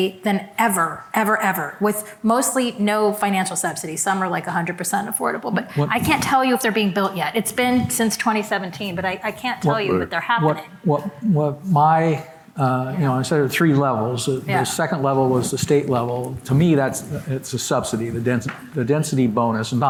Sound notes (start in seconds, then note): 11.2 stammering